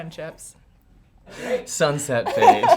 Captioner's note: laughing